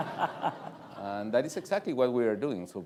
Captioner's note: laughter